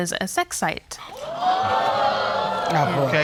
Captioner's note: audience exclaiming